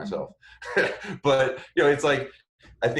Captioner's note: laughs